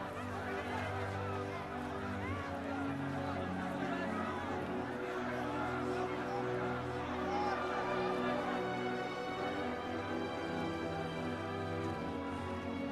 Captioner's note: crowd cheering